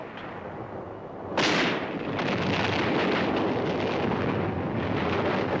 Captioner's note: artillery firing